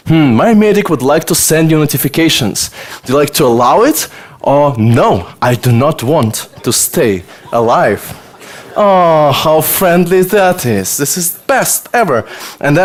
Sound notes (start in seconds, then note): 5.9 audience laughter